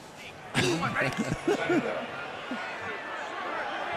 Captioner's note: laughter